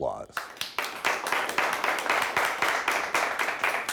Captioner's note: audience applauds